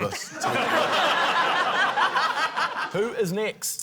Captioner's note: laughter